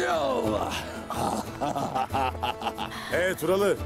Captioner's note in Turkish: Bamsı gülme sesi